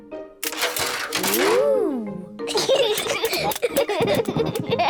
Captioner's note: giggling